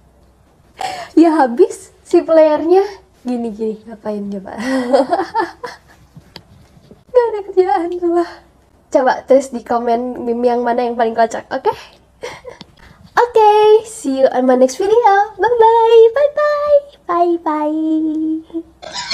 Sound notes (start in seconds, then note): 7.2 laughs